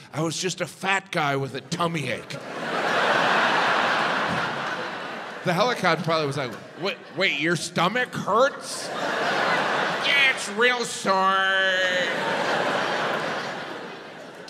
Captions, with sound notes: I was just a fat guy with a tummy ache. (audience laughs) The helicopter pilot was like, wait, your stomach hurts? Yeah, it's real sore. (audience laughs)